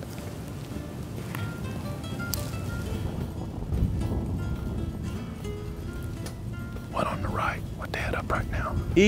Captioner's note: whispering